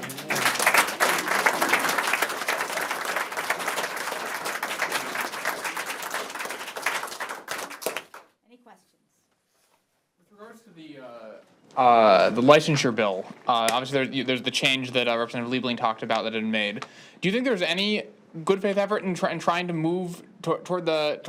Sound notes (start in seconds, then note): 8.0 applause